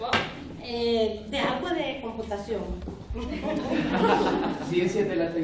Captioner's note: speaking spanish